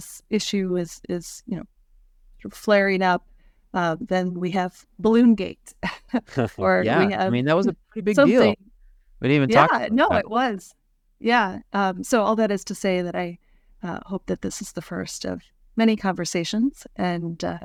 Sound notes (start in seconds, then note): 6.2 laughs